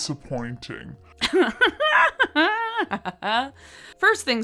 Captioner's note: laughing